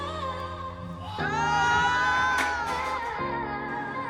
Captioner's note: all screaming